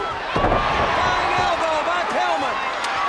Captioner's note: crowd cheering